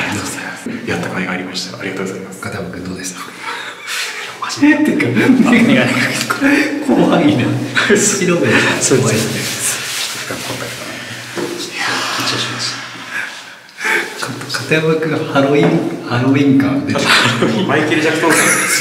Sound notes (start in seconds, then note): 10.7 laughs